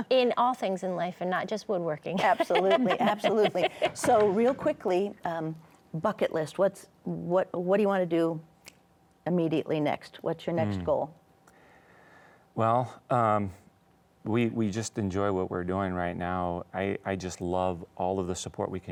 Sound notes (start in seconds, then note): 2.2 laughs